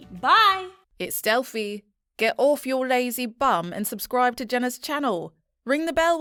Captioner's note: confident Female Voice